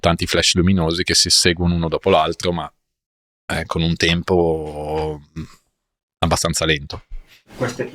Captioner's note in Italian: schiarire la voce